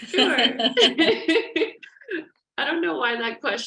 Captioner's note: laughter